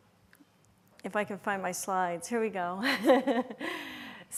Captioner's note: chuckles